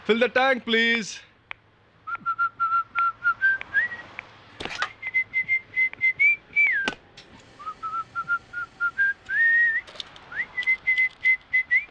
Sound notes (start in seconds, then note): 5.0 whistling